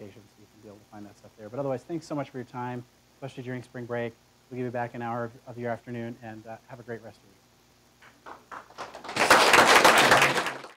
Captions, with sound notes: You'll be able to find that stuff there. Otherwise, thanks so much for your time, especially during Spring Break. We'll give you back an hour of your afternoon. Have a great rest of the week. [APPLAUSE]